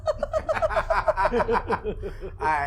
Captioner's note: laughing